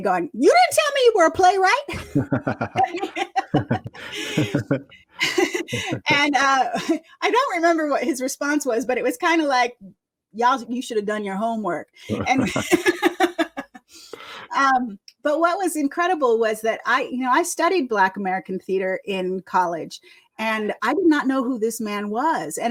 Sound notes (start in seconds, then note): 1.9 laughter; 12.1 laughter